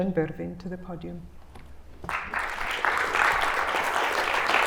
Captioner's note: applause